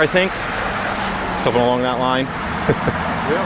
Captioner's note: laughing